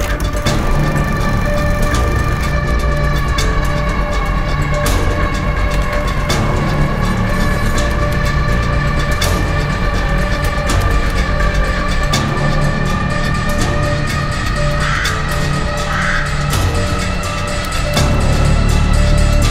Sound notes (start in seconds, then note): 0.3 camera reel clicking; 14.5 crow cawing